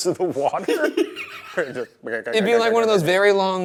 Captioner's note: Ryan laughs